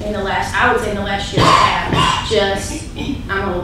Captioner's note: coughing